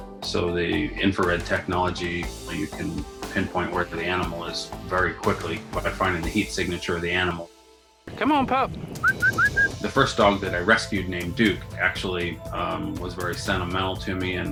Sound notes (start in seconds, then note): 9.0 whistling